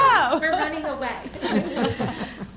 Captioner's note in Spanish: risas